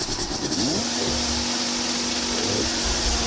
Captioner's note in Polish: warkot silnika